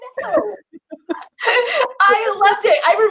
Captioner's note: laughs